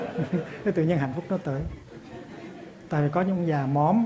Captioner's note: audience laughs